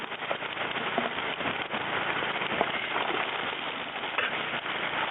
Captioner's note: washing gravels sounds